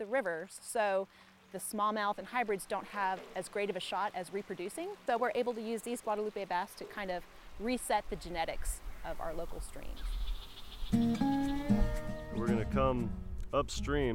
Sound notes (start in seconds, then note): 8.8 bug noises